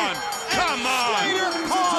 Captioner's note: bell ringing